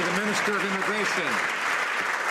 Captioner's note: some Applause